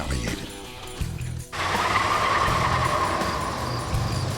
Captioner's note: tires squealing